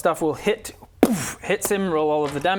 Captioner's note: boof!